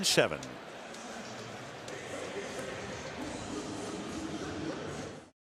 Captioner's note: pa announcement